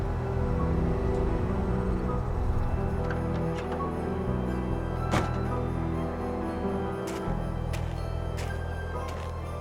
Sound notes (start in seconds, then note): 0.3 gentle music; 5.1 car door slams